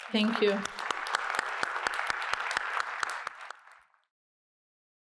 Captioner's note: applause